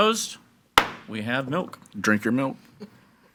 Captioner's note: gavel bangs